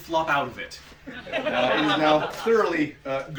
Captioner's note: laughter